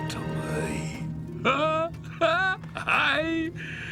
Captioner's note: laughs